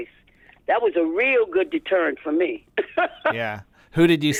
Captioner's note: laughter